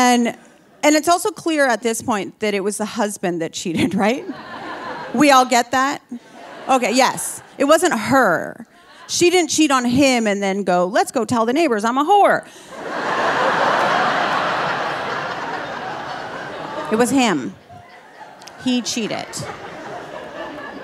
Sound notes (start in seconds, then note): 4.0 audience laughing; 4.1 laughing; 12.6 audience laughing